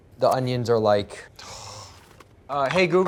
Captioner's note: gasping